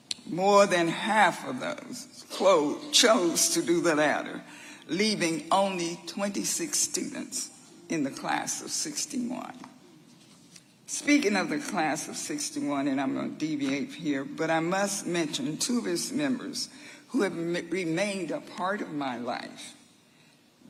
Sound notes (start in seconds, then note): none